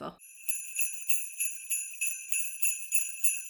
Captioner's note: sleigh bells